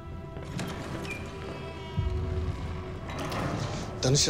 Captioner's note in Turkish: Kapı kapanma sesi